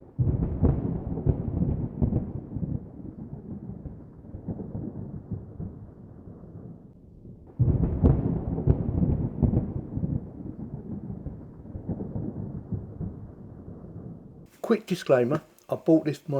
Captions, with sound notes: [thunder] Quick disclaimer, I bought this for